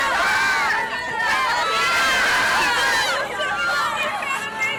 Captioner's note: fans chattering